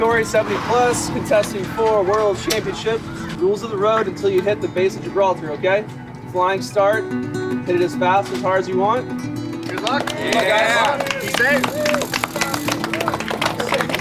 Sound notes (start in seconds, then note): 9.6 crowd cheering